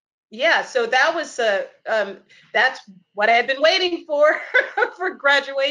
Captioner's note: laughs